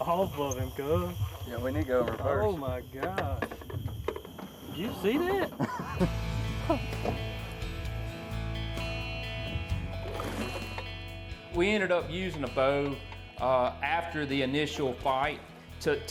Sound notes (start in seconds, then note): 5.4 laughing together